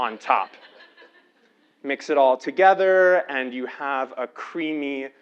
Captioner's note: laugh